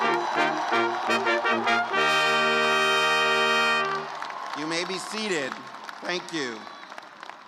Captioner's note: cheers and applause